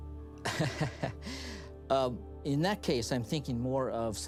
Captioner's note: chuckles